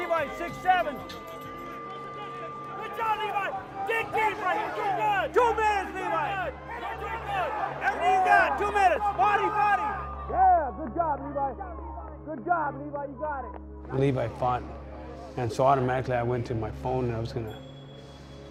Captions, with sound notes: - Levi, six, seven! Good job Levi! Dig deep right here! Good job. Two minutes Levi. (crowd yelling) Everything you got! Two minutes. Fighting, Fighting! Yeah, good job Levi. Good job, Levi. You got it. Levi fought. And so automatically, I went to my phone, I was gonna,